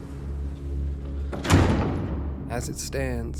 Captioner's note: sound of door closing